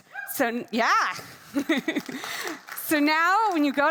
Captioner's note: laughs; attendees clapping